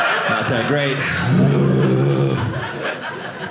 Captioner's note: audience laughing